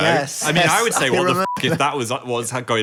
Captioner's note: beep